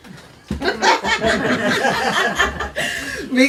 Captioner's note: group laughing